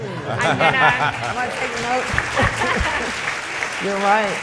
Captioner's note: audience clapping